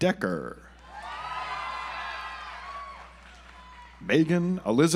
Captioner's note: audience applauds